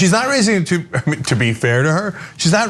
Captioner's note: laugh